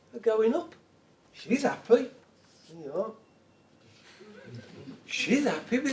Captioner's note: audience chuckles